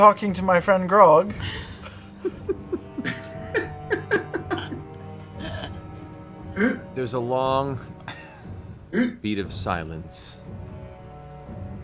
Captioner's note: annoyed sigh